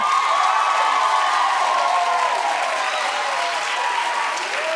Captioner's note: audience cheering